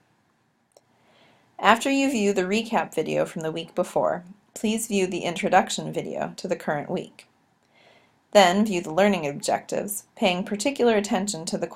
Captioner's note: click